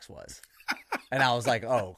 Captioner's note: laughing